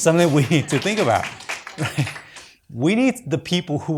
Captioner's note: audience applauds